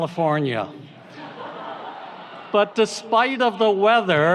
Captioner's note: audience laughs